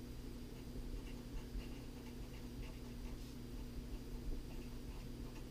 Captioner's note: pen writing on paper